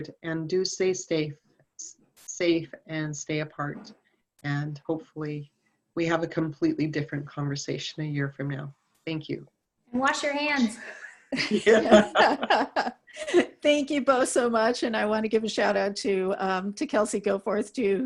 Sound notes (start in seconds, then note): 10.8 all laughing